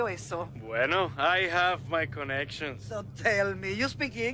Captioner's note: in English